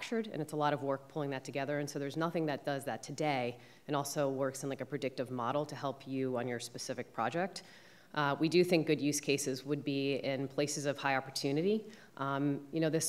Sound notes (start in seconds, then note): none